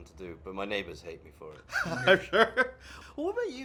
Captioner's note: laughs